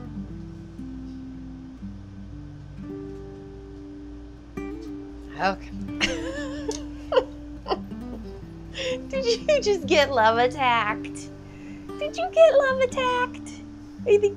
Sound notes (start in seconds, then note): 0.1 guitar playing; 6.0 laughing